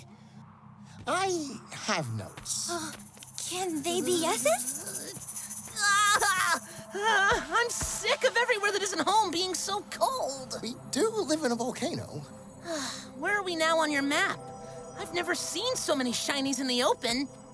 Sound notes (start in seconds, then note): 5.2 shivering; 12.6 sighs